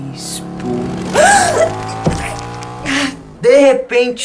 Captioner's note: motorcycle noise, boy gasps